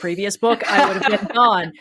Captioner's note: laugh